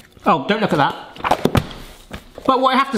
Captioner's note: book thuds